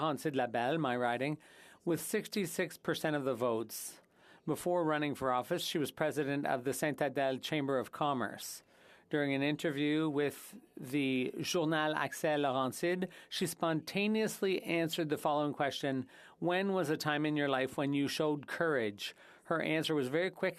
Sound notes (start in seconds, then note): 15.9 speaking French